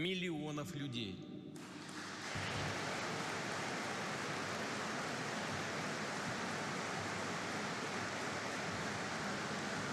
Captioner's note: applause